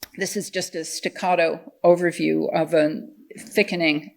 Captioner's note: none